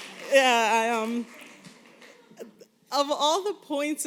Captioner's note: applause